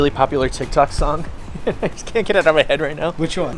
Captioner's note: chuckles